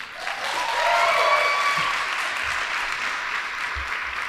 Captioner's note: audience applauding